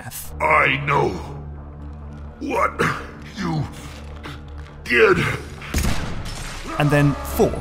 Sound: gunshot

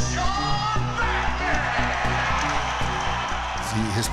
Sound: crowd Cheering

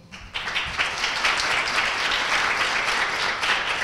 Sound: applause

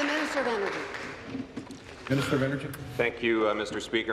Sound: applause

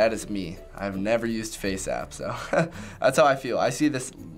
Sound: chuckles

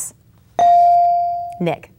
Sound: bell dinging

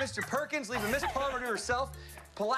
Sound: laughter

